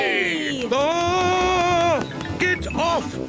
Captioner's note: screams